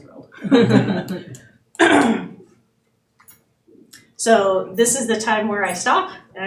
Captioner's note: laughing